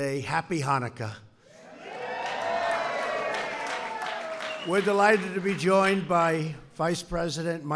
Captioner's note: applause